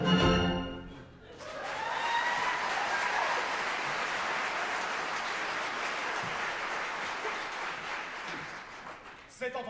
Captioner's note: applause